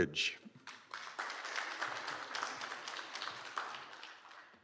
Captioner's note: applause